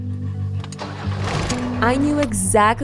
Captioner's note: car engine starting